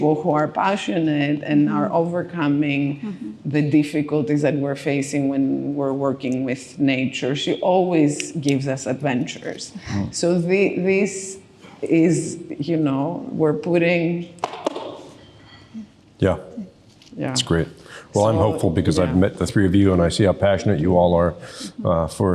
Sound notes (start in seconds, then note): 14.4 fingers rapping